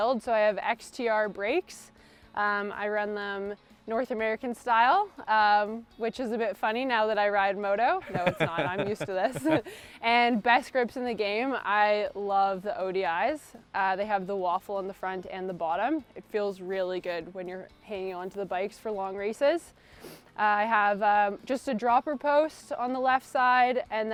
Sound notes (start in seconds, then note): 8.0 laughs; 8.0 chuckles lightly